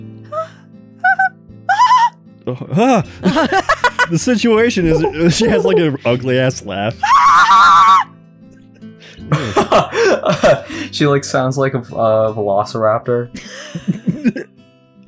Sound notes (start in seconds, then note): 7.0 screeches; 9.2 cracks up; 13.4 giggle